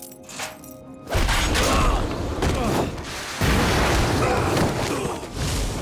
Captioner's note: groaning